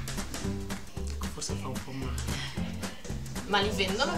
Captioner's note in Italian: ironico